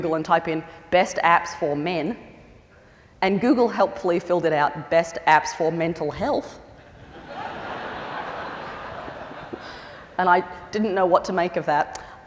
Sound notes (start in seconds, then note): 6.8 laughter